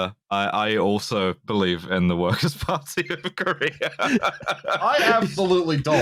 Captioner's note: laughs